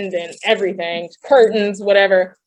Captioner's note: laughing